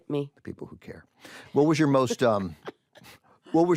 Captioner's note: laughs